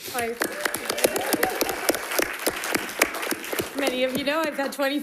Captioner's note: crowd clapping; crowd cheering